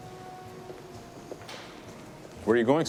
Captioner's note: footstep